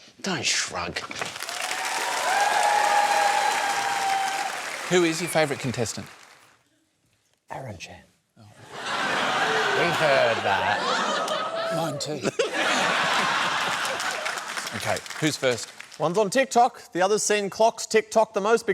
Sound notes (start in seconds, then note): 1.3 cheering and applause; 7.2 whispers; 8.6 laughter